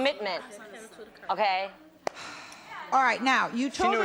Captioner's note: sighs